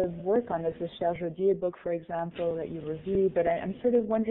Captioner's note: foreign language